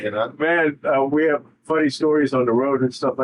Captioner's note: laughing